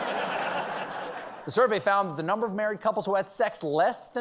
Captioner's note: laughter